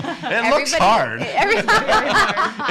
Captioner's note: laughing